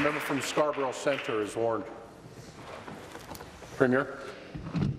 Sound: applause

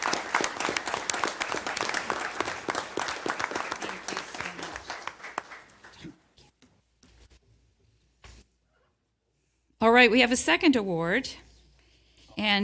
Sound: applause

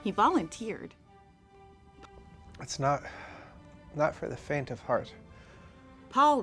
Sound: painful breath

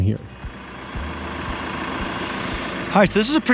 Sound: backhoe rumbling

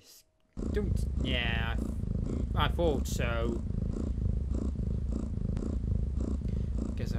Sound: jess snoring sound

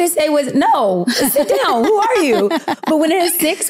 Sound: laughing

